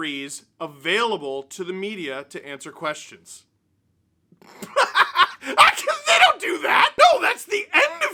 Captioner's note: laughter